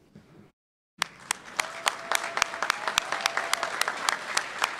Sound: applause

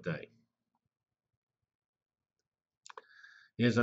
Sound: pause

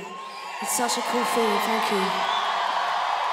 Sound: audience applauding

